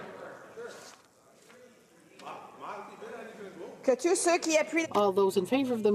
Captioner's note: speaking in french